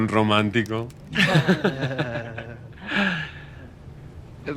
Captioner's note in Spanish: Risas